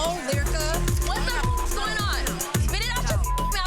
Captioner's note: beep